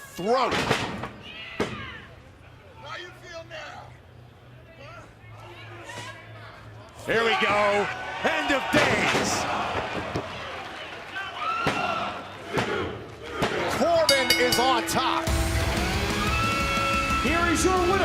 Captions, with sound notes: THE THROAT. >> HERE WE GO. END OF DAYS. [BELL RINGING] >> CORBIN IS ON TOP.